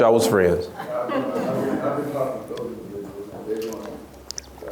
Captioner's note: laughs